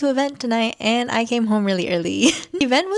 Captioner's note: laughs